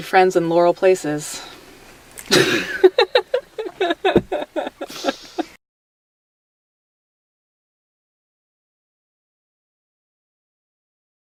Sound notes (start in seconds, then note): 2.2 laughs